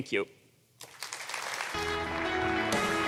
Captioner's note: applause